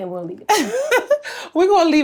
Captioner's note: Treasure laughs